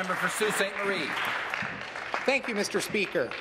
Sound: applause

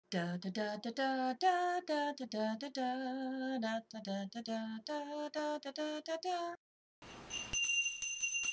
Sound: bell Ringing

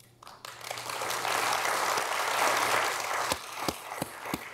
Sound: audience applauding

